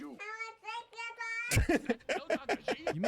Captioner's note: laughing